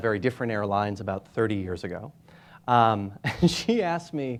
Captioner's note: chuckling